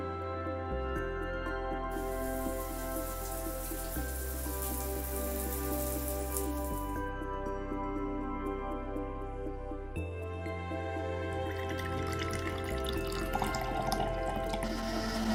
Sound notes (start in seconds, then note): 2.0 water splashing; 11.4 juice bubbling